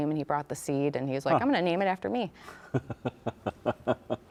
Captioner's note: laughs